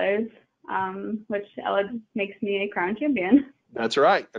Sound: chuckling

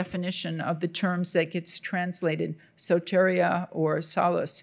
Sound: speaking in Greek

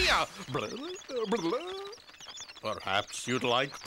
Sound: blubbering

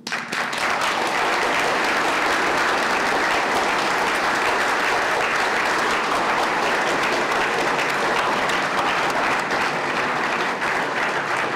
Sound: applause

